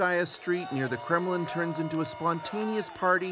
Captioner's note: speaking russian